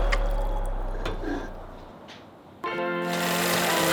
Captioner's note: running and music water stops; organ music